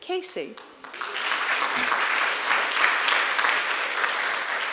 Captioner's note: applause